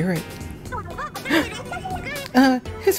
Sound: gasps

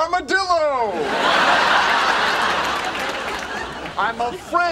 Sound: audience laughing

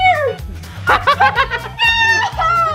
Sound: laughs

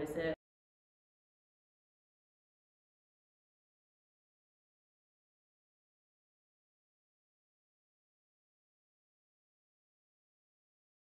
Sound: silence

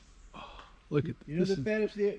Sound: gasp

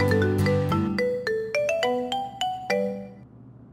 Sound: pleasant music; phone ringing

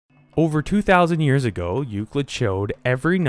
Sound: voiceover

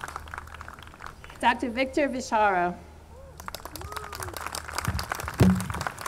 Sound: audience clapping

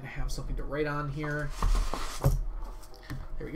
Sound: papers rustle

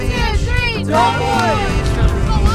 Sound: players chatting quietly; shouting

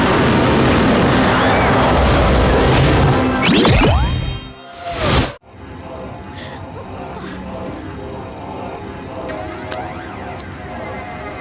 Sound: screams

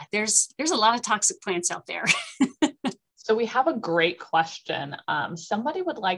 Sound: laughter

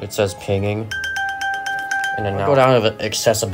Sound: Apple Watch Pings

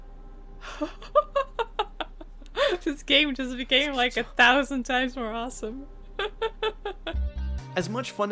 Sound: laughs

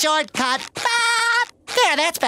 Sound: laughing

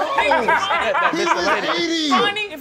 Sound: laughing

